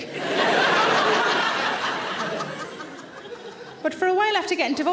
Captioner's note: audience laughing